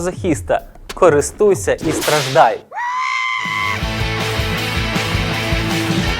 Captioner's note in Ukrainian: за кадром лунає панічний крик